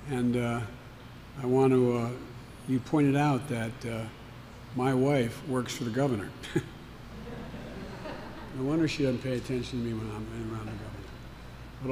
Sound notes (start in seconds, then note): 7.0 laughter